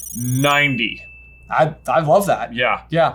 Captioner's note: bell dings